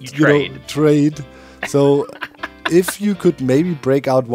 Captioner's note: laughs